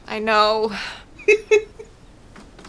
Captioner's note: laughs, but like an old man